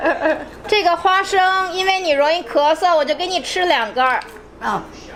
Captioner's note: laughs; speaking Chinese